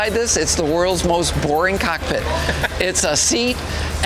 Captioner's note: laughs